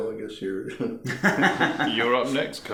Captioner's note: laughing